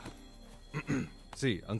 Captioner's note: Clears throat